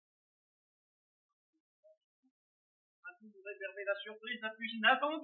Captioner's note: man speaking French